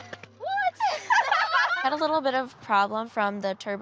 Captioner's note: all laugh